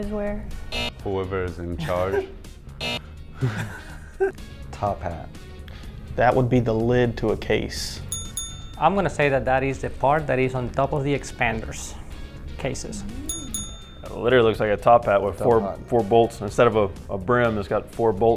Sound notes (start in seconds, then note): 0.7 buzzer; 2.8 buzzer; 8.1 ding ding; 13.2 ding ding